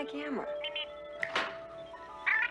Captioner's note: Steve Trevor snaps his Fingers